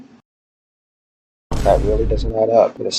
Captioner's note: boom